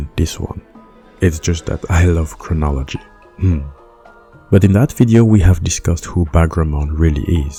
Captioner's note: laughs